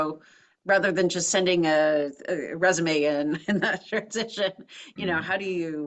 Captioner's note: laugh